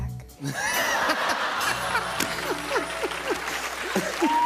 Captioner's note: laughter; cheers and applause